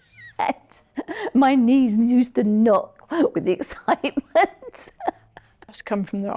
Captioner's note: laughs; laughs